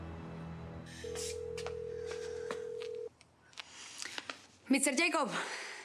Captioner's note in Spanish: timbre telefónico